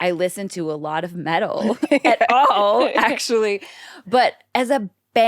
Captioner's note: laughs